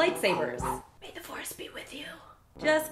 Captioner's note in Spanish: Susurro